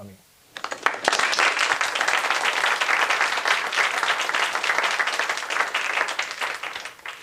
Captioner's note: applause